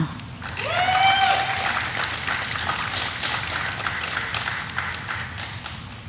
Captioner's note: audience applauding; audience member cheering